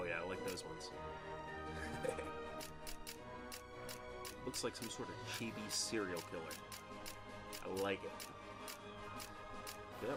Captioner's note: laughing